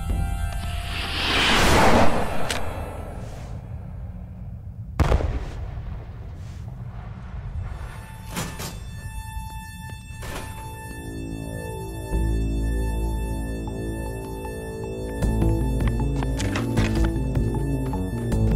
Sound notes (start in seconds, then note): 0.7 rocket hissing; 2.2 magazine clacks; 4.9 rocket exploding; 8.3 door opens; 14.9 suspenseful music